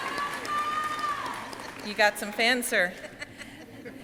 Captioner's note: audience cheering; person shouting